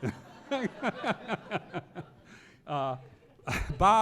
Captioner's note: audience laughing